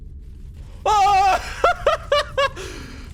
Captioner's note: screams; laughs